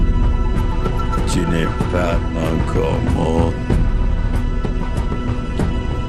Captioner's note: Half King speaking in foreign language